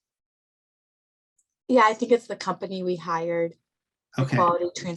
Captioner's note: tender Voice